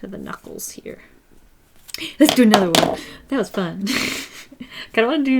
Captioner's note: laughs